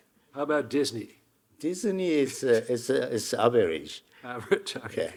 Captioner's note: chuckling